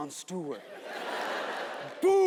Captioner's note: audience laughs